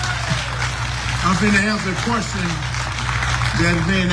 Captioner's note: applause